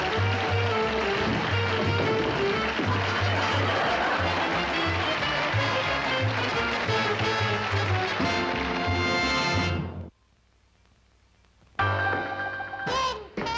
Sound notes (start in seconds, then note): 2.8 laughter; 11.7 jazz